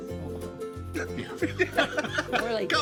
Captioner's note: laughing